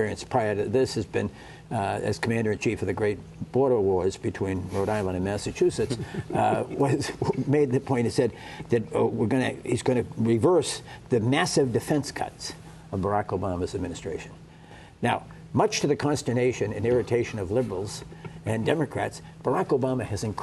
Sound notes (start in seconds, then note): 5.8 laughter